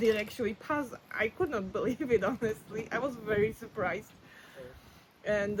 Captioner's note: laughs